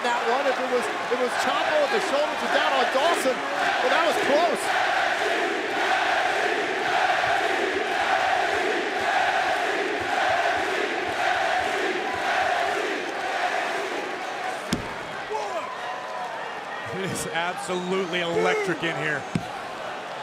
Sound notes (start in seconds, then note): 3.9 crowd cheering